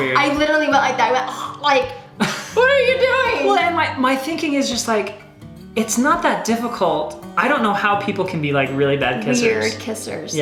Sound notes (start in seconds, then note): 0.0 gagging; 2.2 gagging